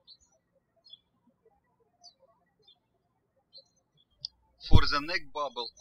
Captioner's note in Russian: птички щебечут